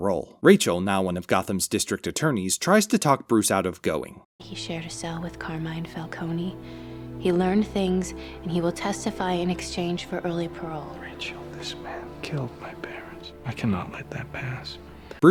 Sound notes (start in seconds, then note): none